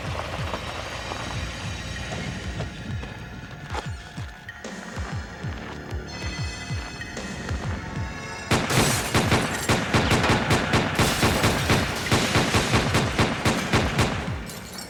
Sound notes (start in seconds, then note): 8.3 gun shots